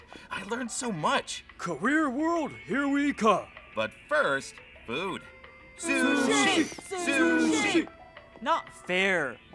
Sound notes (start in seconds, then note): 5.8 chanting